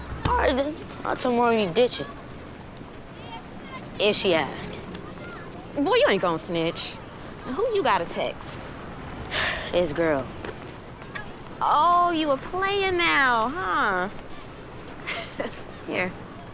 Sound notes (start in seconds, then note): 9.3 sighing; 15.0 laughing